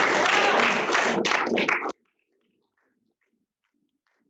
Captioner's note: applause and cheers